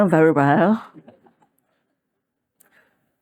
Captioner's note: laughter